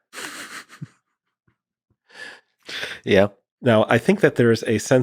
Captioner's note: laughing